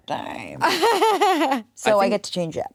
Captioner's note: laughs